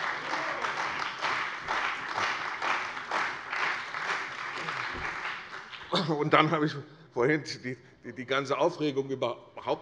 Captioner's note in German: Beifall bei der CDU und dem BÜNDNIS 90/DIE GRÜNEN